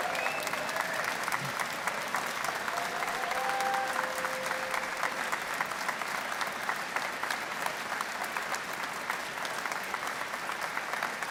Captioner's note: cheers and Applause